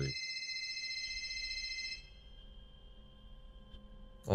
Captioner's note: phone rings